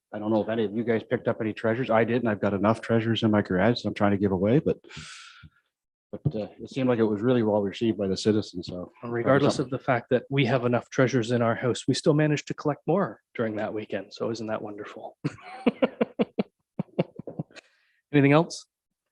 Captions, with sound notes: So I don't know if any of you guys picked up any treasures. I didn't, I've got enough treasures in my garage. I'm trying to give away, but it seemed like it was really well received by the citizens, so- - Irregardless of the fact that we have enough treasures in our house, we still managed to collect more during that weekend. So isn't that wonderful.(chuckles) Anything else?